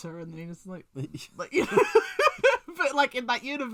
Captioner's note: laughs